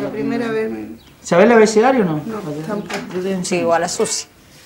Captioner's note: speaking Spanish